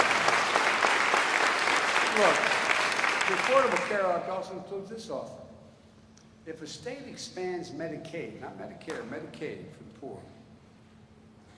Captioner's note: applause